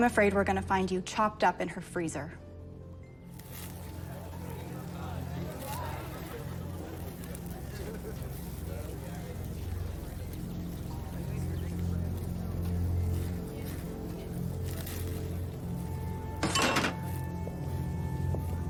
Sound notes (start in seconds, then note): 2.6 sizzling BBQ